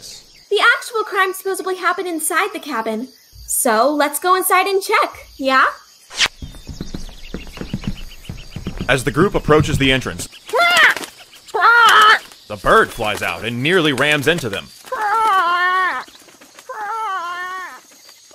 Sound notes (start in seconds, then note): 6.2 footsteps on wood; 10.3 wings flapping; 14.7 bird squawking and flying away